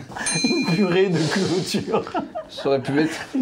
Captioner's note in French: en riant